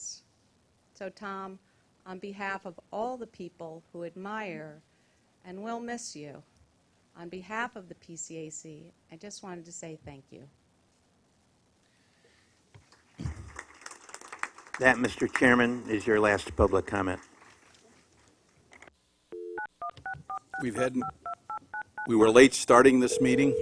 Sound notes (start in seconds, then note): 13.2 applause